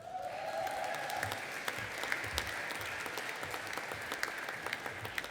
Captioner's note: audience applauding and cheering